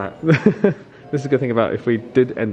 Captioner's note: laughing